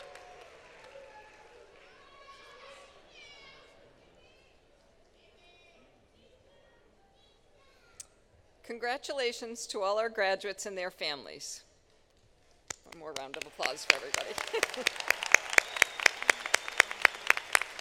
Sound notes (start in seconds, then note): 2.8 applause; 17.5 applause